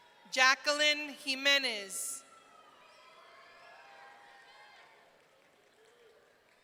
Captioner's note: audience cheering